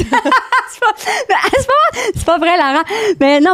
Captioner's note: laughing; in french